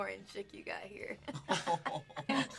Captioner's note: laughing